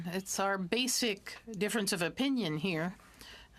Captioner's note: speaking french